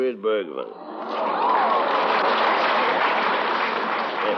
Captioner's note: applause